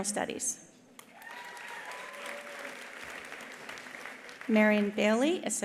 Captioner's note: attendees applauding; attendees cheering